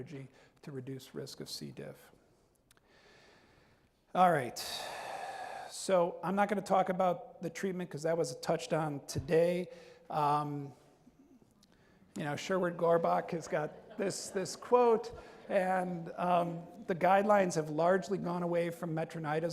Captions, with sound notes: to reduce risk of C. diff. All right, so I'm not gonna talk about the treatment 'cause that was touched on today. Sherwood Gorbach has got this quote. (audience laughs) And the guidelines have largely gone away from metronidazole.